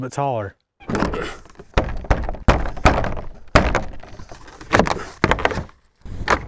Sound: board clattering; instructor grunting

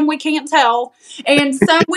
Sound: laugh

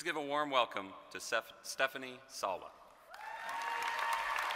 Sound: applause

